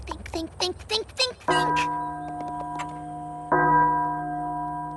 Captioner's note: bell tolls